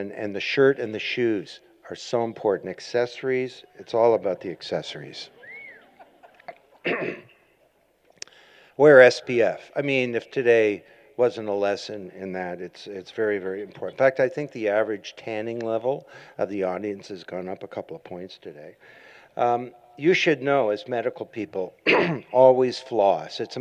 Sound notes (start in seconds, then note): 5.8 laughter